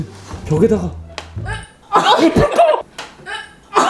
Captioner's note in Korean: 스위치 누르는 소리